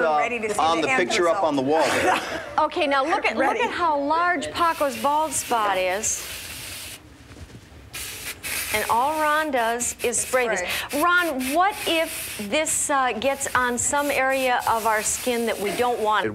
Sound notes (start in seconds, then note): 7.9 spraying